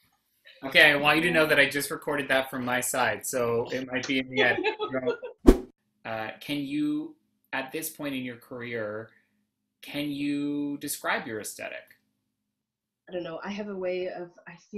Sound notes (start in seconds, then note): 3.5 laughs; 5.4 whoosh